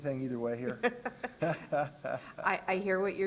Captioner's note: laughter